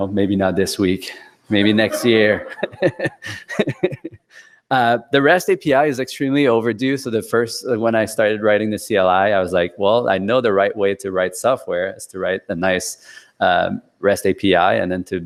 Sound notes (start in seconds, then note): 3.4 laughs